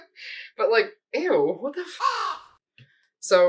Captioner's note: caw